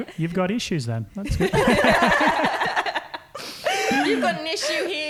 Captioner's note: laughing; laughing